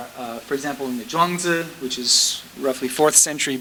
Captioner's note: speaking foreign language